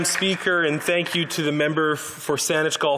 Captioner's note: some Applause